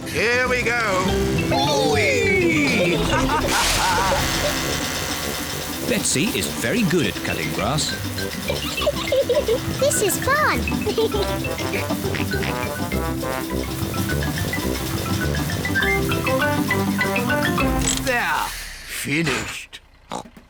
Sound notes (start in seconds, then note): 8.3 giggling; 11.3 laughs; 20.0 oinks